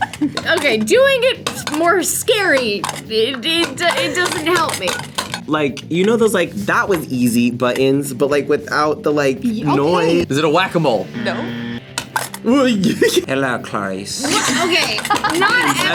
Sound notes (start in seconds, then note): 0.0 laughs; 11.2 buzzer; 14.2 laughs